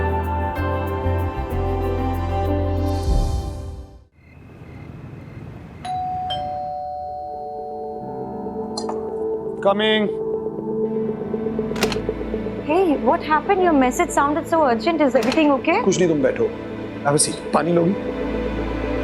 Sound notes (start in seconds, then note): 4.1 crickets chirping; 11.7 door unlocks